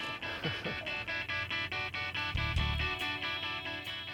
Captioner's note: laughs; upbeat music